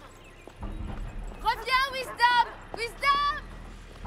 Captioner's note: dog barking